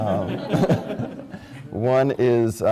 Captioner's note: laughs